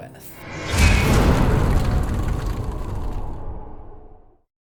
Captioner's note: impact